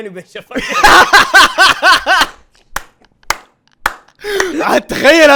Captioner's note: laughing